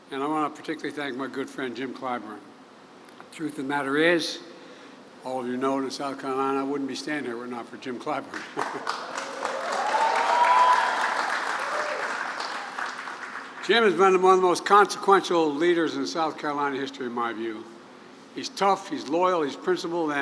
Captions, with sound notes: And I want to particularly thank my good friend Jim Clyburn. The truth of the matter is -- all of you know it in South Carolina -- I wouldn't be standing here were it not for Jim Clyburn. (Laughs.) (Applause.) Jim has been one of the most consequential leaders in South Carolina history, in my view. He's tough, he's loyal, he's principled.